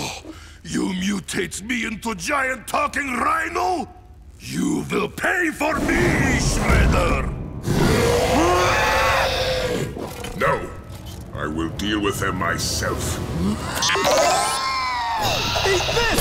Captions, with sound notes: You mutate me into a giant talking rhino? You will pay for this Shredder! [roaring] No, I will deal with them myself. Eat this!